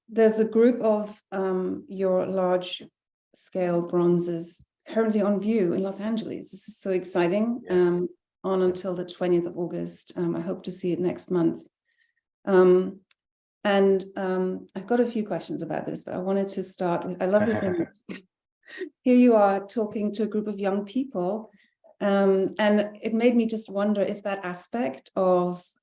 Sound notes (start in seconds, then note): 17.4 laughing; 19.8 laughing